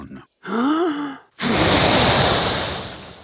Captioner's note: inhaling deeply; blowing